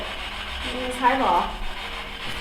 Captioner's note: static buzzing